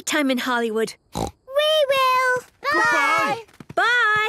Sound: snort

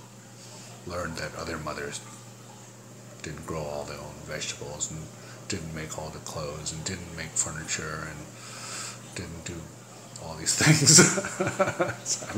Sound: laughs

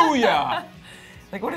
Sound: laughs

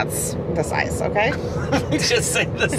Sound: both laughing

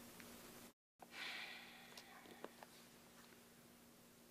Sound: sighs

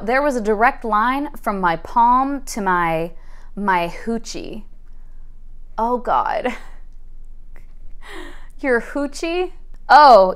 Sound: laughing

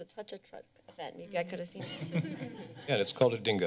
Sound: laughter

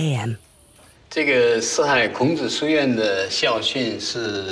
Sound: speaking Chinese

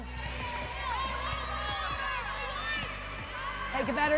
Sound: volleyball players chatter

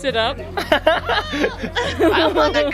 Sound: fake shouts

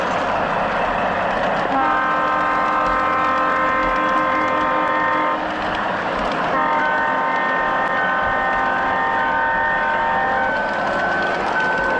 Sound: train horn

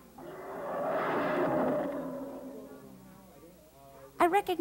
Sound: dinosaur roaring

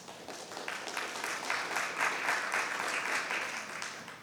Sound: applause

